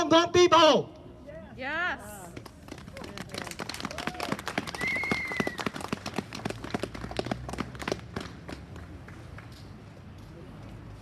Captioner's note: applause